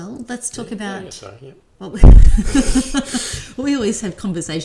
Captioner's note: laughs